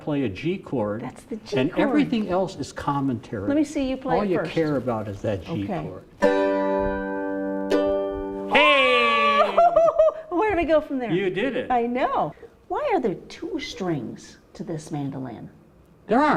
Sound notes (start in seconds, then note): 6.1 mandolin G chord; 6.1 exclaim